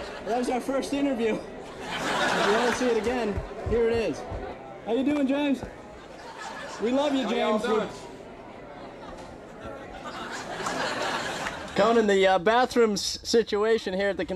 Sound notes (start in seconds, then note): 1.5 audience laughing; 10.4 audience laughing